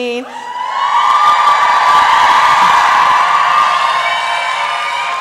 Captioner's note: applause and cheering